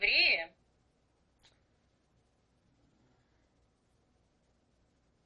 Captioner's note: pause 7 seconds